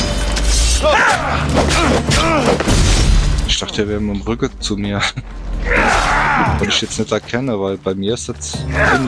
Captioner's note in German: stöhnen